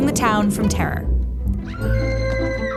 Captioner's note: screaming woman